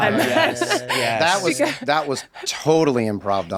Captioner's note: laughs